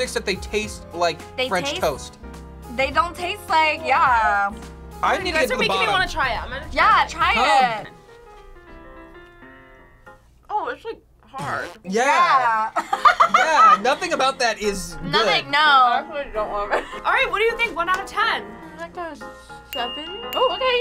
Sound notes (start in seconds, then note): 12.8 laughing; 20.6 chattering